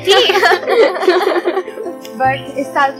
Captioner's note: laughing